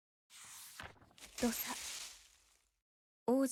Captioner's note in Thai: เสียงตกลงไปบนพุ่มไม้